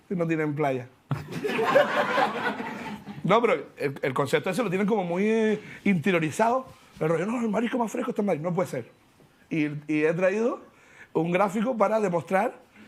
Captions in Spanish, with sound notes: Si no tienen playa. (Risas) No, pero el concepto ese lo tienen como muy... interiorizado. "El marisco más fresco está en Madrid". No puede ser. Y he traído un gráfico para demostrar...